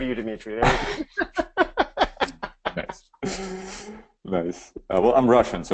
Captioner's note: laughs